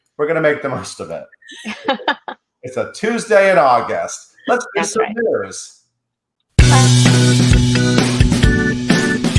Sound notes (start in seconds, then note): 1.4 laughs; 6.6 upbeat music